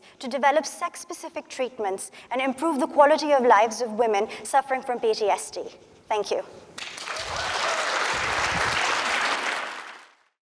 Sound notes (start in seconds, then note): 6.7 audience clapping